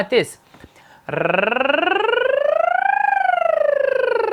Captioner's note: rolling tongue